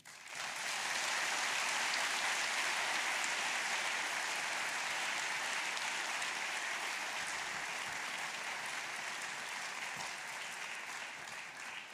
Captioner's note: applause